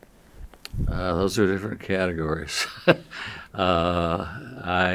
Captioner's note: chuckles